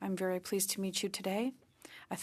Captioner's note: speaking French